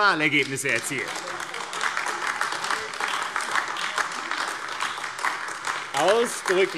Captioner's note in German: Beifall AfD